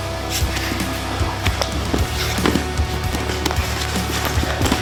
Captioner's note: both thudding